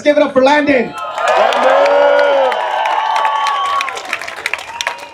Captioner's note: applause